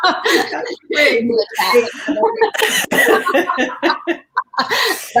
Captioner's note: laughter and various mumbles